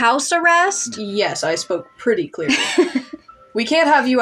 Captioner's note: laugh